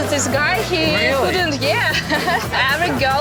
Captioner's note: laughs